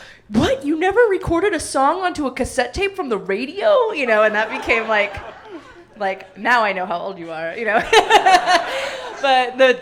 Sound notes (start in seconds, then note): 7.7 audience laughing; 7.8 hysterical laughter